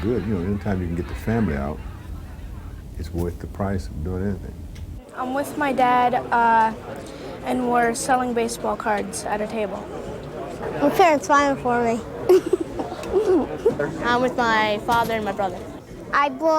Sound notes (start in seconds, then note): 12.2 laughs